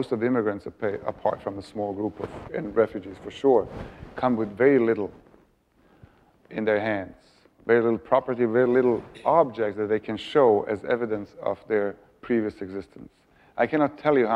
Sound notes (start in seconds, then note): none